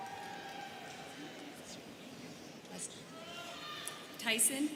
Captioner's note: students cheering